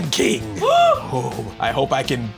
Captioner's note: gasps